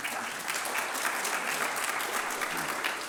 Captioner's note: applause